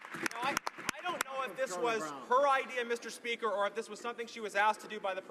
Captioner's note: some Applause